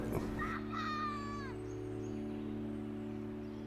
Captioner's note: yells